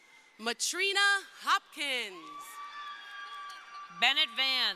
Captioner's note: crowd cheering